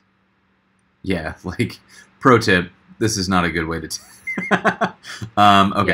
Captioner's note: laughs